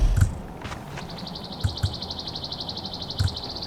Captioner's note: crickets chirping